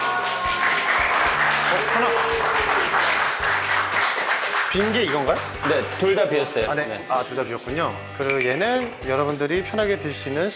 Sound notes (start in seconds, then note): 0.0 finished with a round of applause; 3.1 clapping